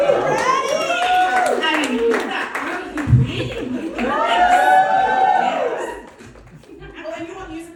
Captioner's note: applause